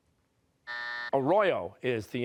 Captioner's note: buzzer